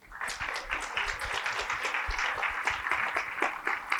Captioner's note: applause